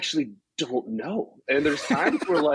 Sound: laughs

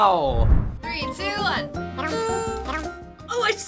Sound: horn honks

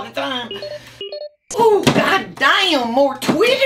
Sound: email sounds

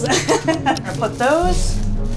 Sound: laughing

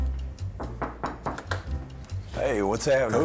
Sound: knocking

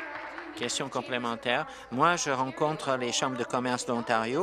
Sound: applause

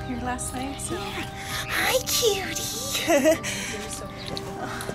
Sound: laughter

